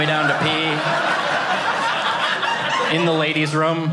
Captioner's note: audience laughing